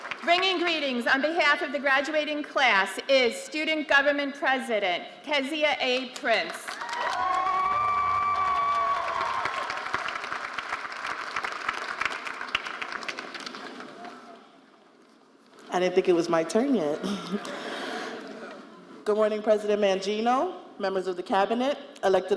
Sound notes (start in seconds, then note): 6.6 audience cheering and applauding